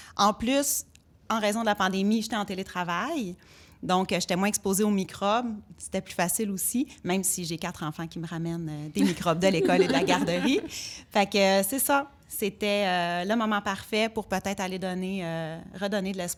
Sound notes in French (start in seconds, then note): 10.7 rires